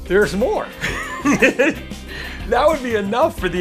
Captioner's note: laughs